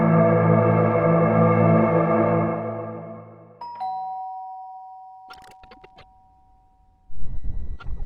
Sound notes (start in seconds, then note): 3.6 bell rings